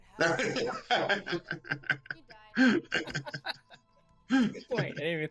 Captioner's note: laughing